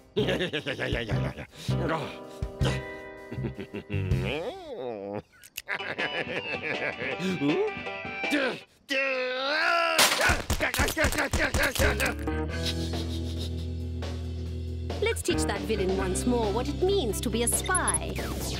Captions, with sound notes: YEAH! YEAH! YEAH! YEAH! YEAH! (chuckles) (laughs) (country music) OOH? (groans) (shouting) (titters) LET'S TEACH THAT VILLAIN ONCE MORE WHAT IT MEANS TO BE A SPY.